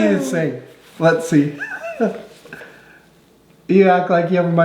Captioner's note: laughing